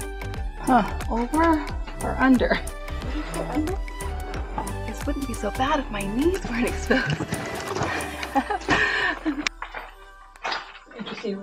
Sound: laughing

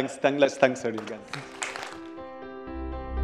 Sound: applause

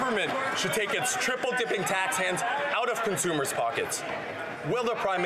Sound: applause

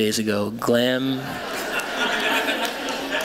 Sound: laughter

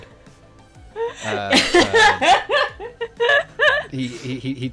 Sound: laughter

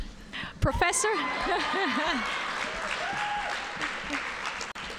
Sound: audience cheering

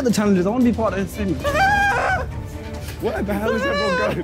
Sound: screaming

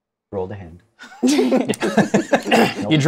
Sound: laughter

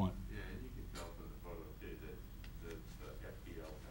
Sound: faintly speaking

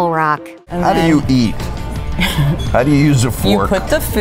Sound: laughs

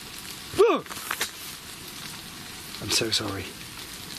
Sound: gasps

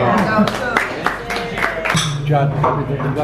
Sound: clapping

